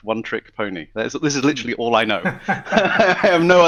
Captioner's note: laughs